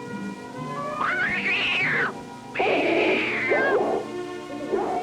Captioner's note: cat screeching; dog growling; dog barking